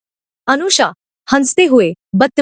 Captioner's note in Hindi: none